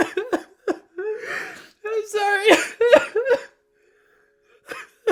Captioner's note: crying